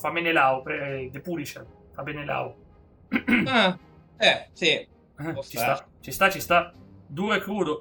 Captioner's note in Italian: schiarire la voce